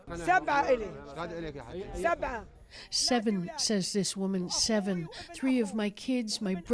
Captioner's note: speaking alternate language